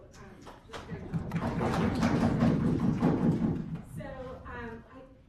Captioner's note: applause